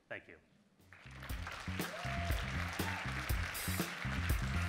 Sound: audience applauds

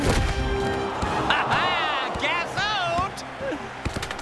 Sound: laughs

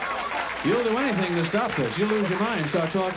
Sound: audience applauds

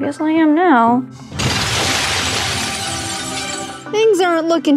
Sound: rose smashing

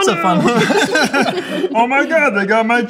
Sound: laughing

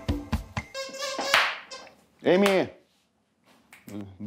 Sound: squeaking, clapping

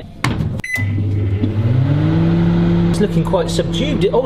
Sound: beeps

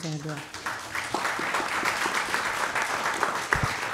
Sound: applause

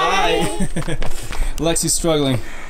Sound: laughing

